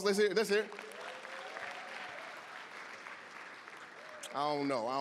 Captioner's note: applause, cheering